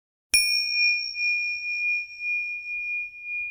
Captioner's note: bell chimes